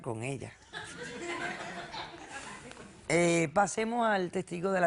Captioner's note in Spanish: Risas